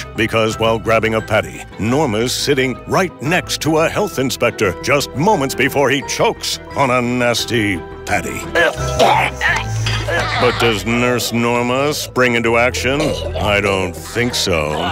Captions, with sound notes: Because while grabbing a patty, Norma is sitting right next to a health inspector just moments before he chokes on a nasty patty. [gagging] But does Nurse Norma spring into action? I don't think so.